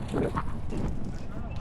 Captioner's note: wind blowing